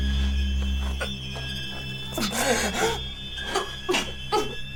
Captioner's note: painful gasping